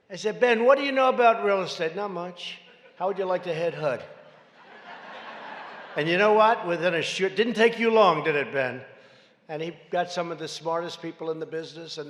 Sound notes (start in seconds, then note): 4.2 laughter